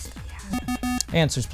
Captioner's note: wispering; bell